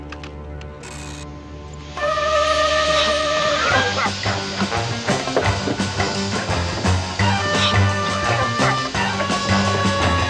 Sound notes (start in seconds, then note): 3.6 coughing